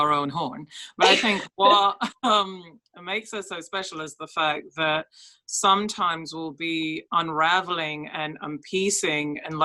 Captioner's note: laughs